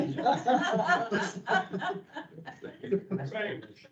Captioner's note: people laughing